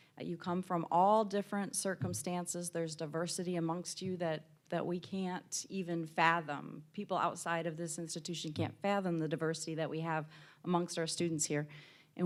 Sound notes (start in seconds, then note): none